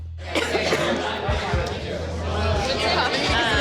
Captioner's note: patron coughs